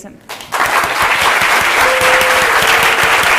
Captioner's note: applause